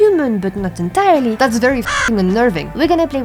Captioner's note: caw